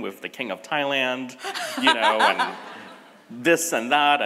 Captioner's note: and audience laughs